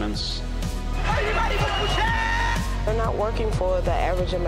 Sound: shouting

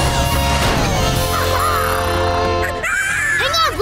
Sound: squeaking

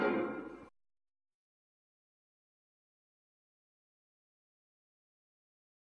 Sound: silence

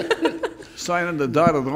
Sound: laughing loudly

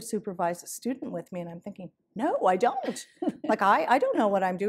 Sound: laughter

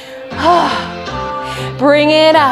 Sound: sighs

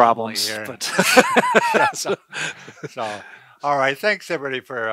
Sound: laughing

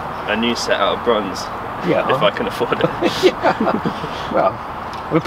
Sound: they laugh

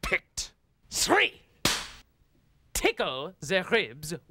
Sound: cracks pointer

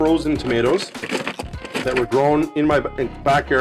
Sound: shuffling

